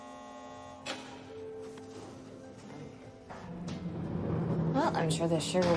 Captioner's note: door buzzer; cell door closing & latching